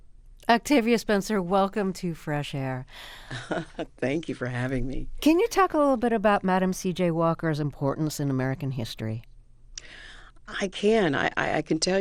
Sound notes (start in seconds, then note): 3.2 laughter